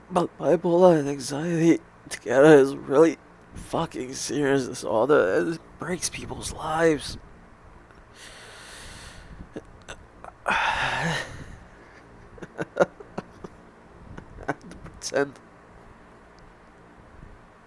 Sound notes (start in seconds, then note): 8.1 deep breath; 10.4 sigh; 12.4 pained laugh; 14.2 choking